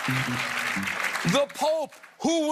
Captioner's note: cheers and applause